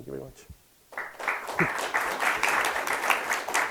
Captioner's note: clapping